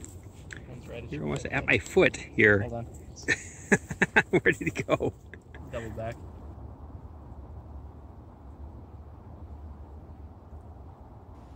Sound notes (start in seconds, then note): 3.2 laughing